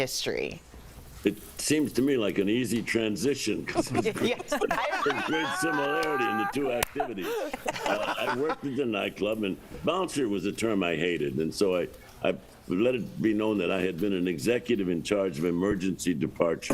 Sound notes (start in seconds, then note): 5.5 laughter